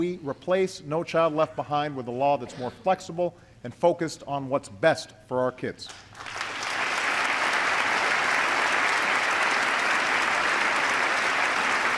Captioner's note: applause